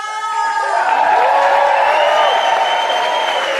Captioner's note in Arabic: الجمهور يهتف بصوت عالٍ